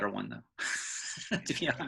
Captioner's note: laughing